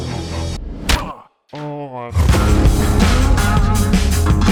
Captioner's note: grunts; upbeat music